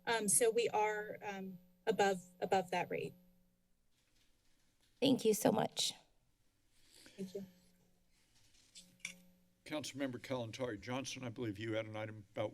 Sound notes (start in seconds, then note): 4.0 paper rustling; 8.1 rustling sound